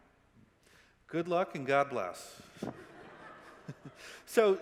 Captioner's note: chuckles; audience laughing